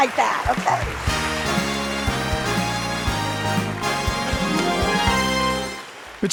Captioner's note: audience applauding; soft music